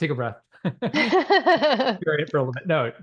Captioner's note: both chuckle